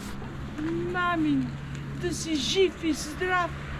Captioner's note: speaks in Bulgarian